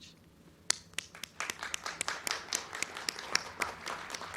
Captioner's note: crowd clapping